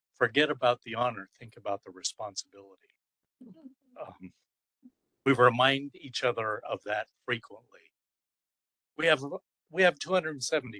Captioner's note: laugh